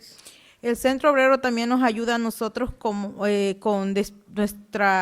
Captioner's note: speaking Spanish